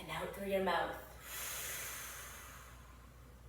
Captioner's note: exhales deeply